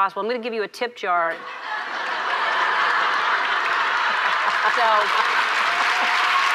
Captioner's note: audience laughs and applauds